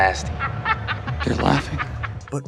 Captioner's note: laughter